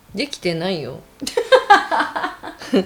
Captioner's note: laughter